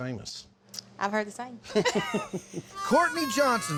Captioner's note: both laugh